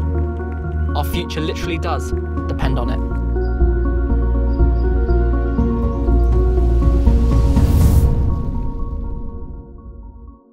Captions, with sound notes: Our future literally does depend on it. (birds chirping) (suspenseful music)